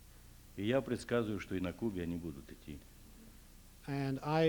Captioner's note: non-english speech